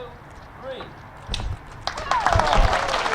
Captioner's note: cutting of the ribbon; participants and audience applauding